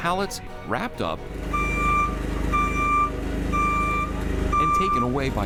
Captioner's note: forklift beeping